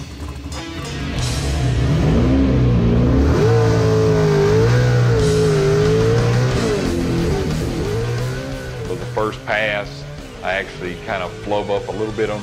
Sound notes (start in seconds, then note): 2.6 care engine revving